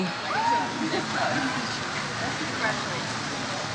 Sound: audience member cheers "Woo"

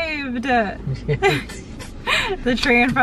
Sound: laughing

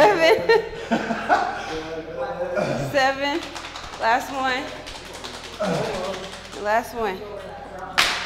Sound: laugh

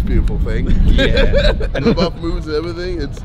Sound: all laugh

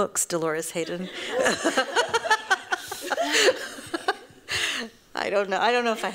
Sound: laughter

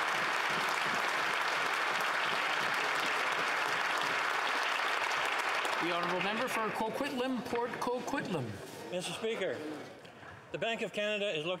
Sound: applause

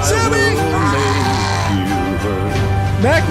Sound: gurgle

